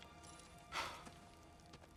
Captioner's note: gasp